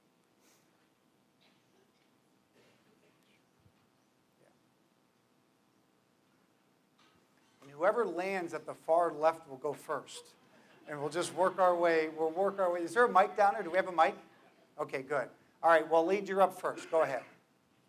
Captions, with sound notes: And whoever lands at the far left, will go first [laughter] and we'll just work our way, we'll work our way, is there a mic down there, do we have a mic, okay good. Alright well Led you're up first, go ahead.